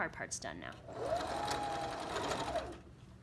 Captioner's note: sewing machine hums